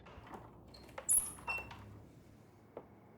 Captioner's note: door creaking